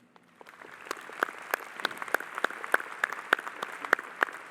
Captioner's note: audience applauding